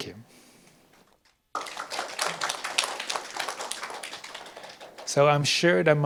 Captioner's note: clapping